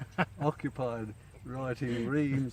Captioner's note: laughing